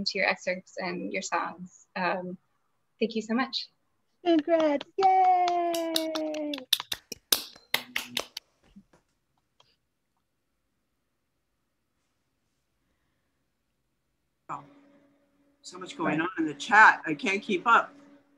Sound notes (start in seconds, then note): 4.3 applause